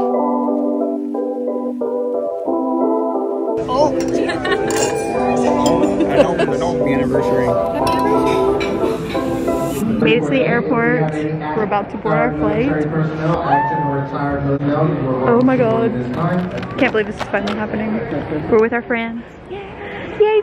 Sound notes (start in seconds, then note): 0.2 upbeat music; 3.6 laughing